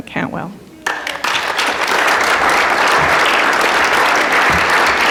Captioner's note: applause